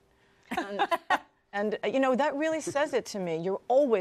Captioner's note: laughter